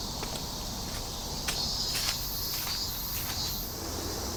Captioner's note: leaves crunching